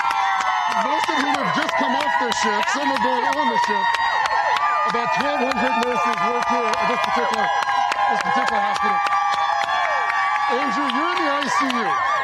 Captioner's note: cheers and applause